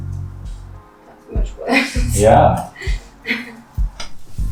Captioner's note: laughs